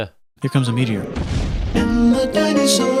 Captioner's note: explosion; jingle